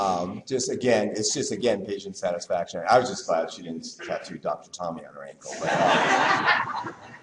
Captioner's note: laughing